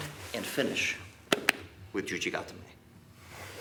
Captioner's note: gentle tapping